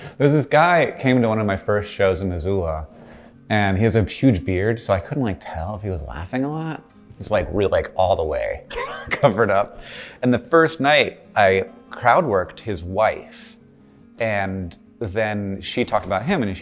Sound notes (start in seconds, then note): 8.7 laughs